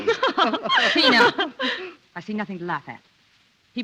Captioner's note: laughter